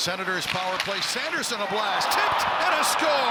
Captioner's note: crowd moaning